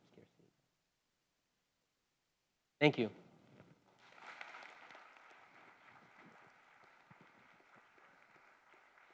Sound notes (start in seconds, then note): 5.9 applause